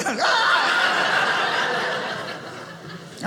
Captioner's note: audience laughing